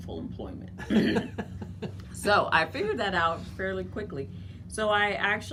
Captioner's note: laughter